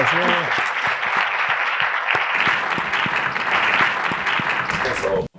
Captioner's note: audience applauding